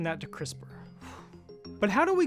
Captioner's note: sighing